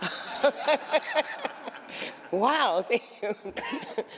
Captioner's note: laughter